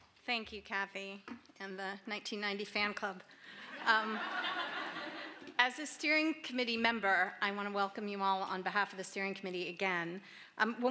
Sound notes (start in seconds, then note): 3.6 laughter